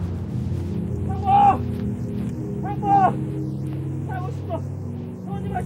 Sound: soldier shouting

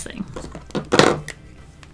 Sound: Copic marker bangs

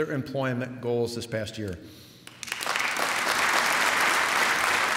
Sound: applause

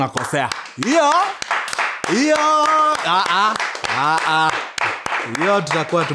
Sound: clapping

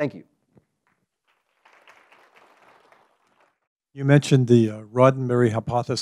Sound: applause

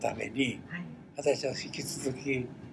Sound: foreign language

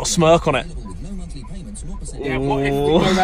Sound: man on Radio

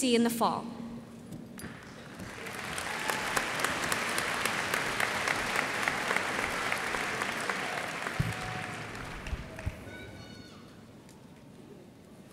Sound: applause

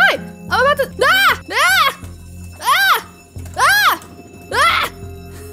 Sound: screams

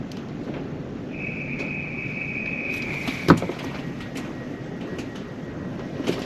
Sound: guard whistle and door closing sounds

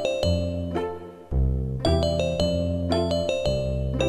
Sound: none

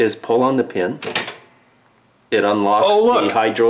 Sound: pin clanking

